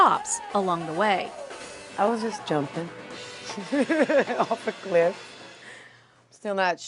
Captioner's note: laugh